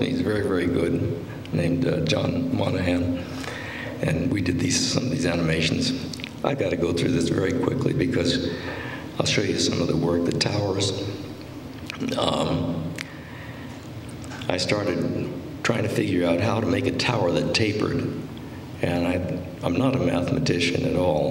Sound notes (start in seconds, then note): none